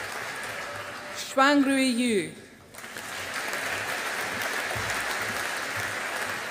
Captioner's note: audience applauding